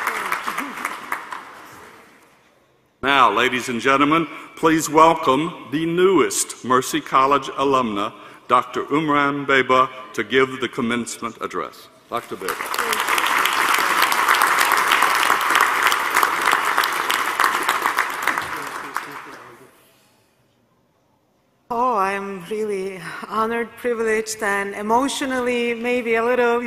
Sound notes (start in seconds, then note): 0.0 applause; 15.8 applause